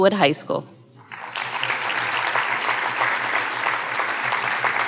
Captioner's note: audience applauding